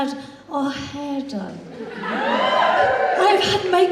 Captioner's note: audience Cheers